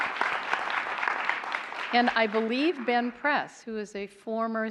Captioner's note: applause